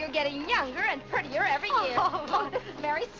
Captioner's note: Vinnie laughs